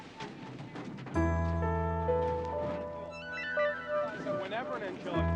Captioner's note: crowd murmuring